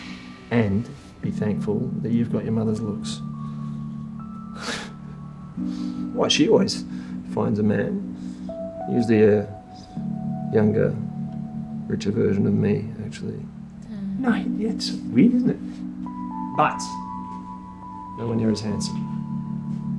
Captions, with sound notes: And be thankful that you've got your mother's looks. [Laughs] Why, she always finds a man. Usually a younger, richer version of me, actually. Dad. No yeah, it's weird isn't it? But, nowhere near as handsome.